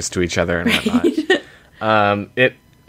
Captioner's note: laughs